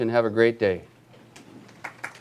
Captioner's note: applause